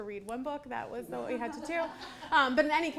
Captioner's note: audience laughing